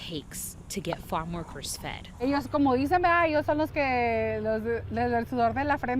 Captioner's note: speaking in foreign language